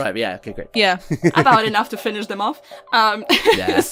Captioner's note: laughs; laughter